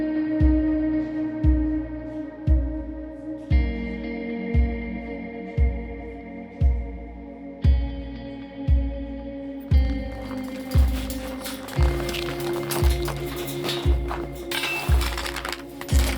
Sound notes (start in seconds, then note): 9.7 metal clanging; 9.8 snow crunching